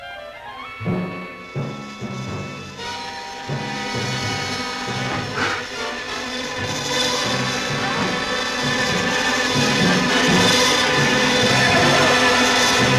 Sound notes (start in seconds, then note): 0.1 dramatic music; 4.9 gasping; 6.8 buzzing; 8.2 yelling; 10.1 dramatic music